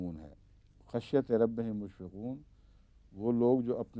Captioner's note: Arabic